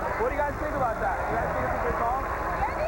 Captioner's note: cheers and applause